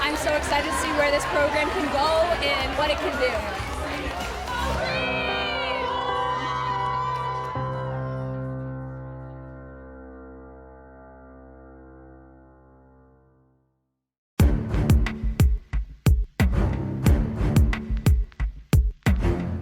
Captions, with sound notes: I'm so excited to see where this program can go and what it can do. (both exclaim) (crowd cheering) (light instrumental music)